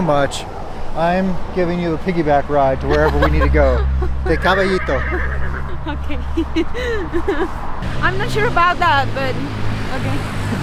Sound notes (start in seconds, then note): 4.4 laughs